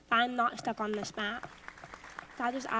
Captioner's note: audience applauds